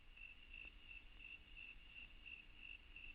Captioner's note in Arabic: الصراصير النقيق